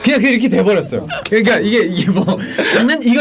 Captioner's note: laughing